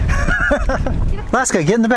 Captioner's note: laughs